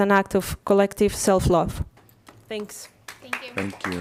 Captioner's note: applause